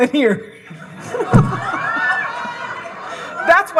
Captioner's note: audience laughing